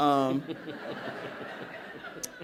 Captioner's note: laughter